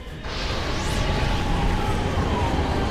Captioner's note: laser whirring